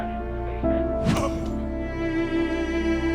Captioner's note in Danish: grynter